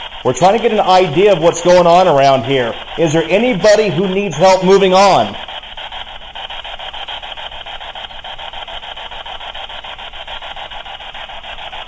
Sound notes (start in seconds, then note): none